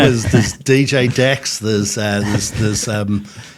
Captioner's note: all chuckling